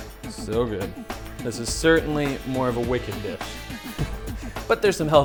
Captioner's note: laughs